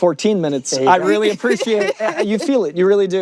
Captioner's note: laughs